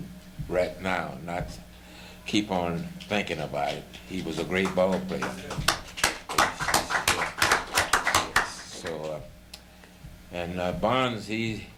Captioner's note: applauding